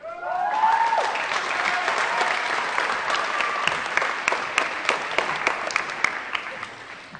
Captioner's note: applause & Cheering